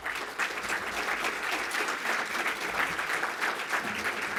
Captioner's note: audience applauding